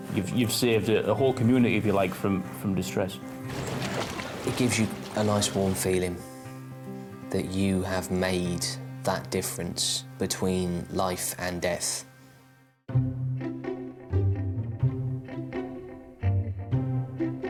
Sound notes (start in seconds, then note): 3.4 water splashing; 12.9 uplifting instrumental music